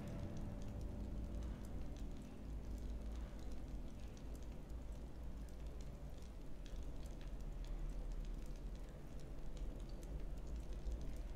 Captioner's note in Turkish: Ateş çıtırtıları sesleri